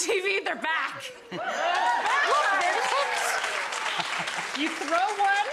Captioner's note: audience clapping